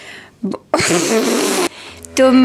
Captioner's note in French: rire